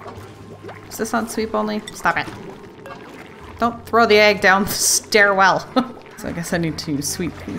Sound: laughs

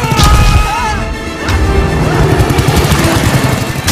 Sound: flik exclaiming; yells

